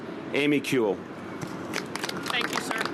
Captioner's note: applause